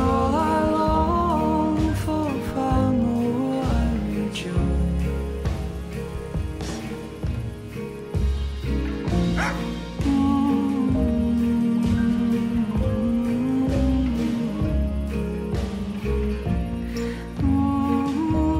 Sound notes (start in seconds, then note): 9.3 dog barks; 9.7 singer humming